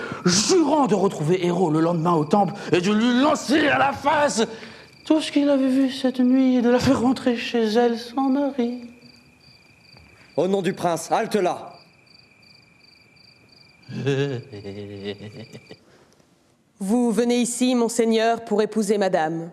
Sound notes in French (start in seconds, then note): 13.8 Rire